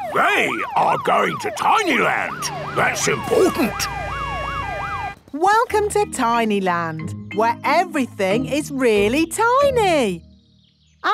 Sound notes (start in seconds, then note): 4.1 sirens wailing